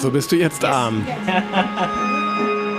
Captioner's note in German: Lachen